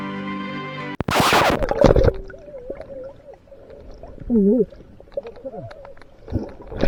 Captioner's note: surprised exclamations!